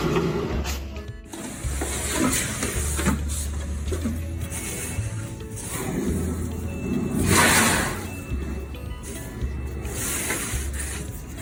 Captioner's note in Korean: 코골이 소리